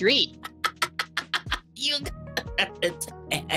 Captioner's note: laughing